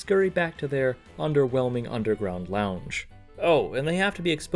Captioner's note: none